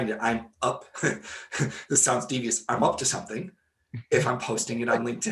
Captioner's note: laughing